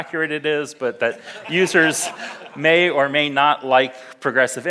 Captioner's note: audience laughs